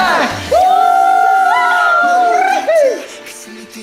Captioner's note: cheer